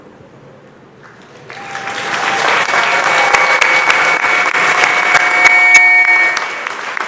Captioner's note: cheers and applause